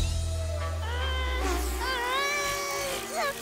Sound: groaning

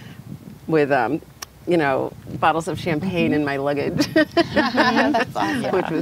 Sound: laughs

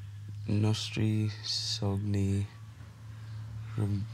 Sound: speaks Italian

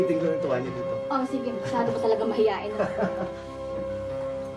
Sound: laughs

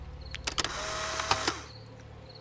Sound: camera shutter

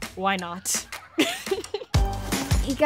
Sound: laughing

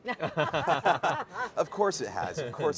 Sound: all laughing

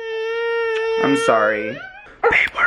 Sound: crying

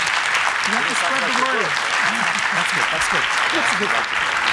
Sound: audience applauding

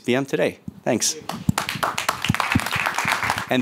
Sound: applause

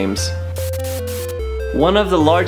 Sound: static

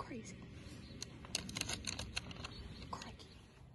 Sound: bag rustles

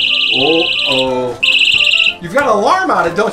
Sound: alarm blaring

